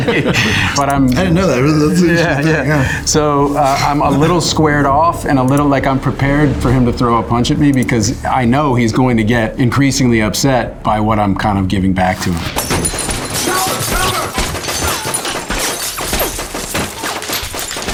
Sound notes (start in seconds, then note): 0.0 laughs; 12.4 glass shatters; 13.8 bullets firing